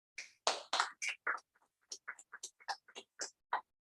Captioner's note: applause